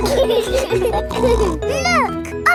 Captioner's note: laughing